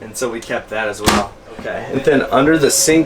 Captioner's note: sound of door closing solidly